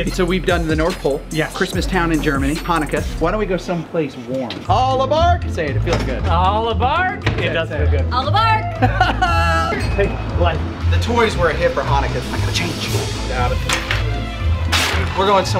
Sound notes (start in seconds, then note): 8.8 Rocky laughs; 9.9 train chugs; 13.3 dramatic music